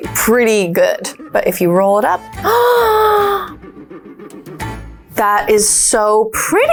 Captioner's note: gasps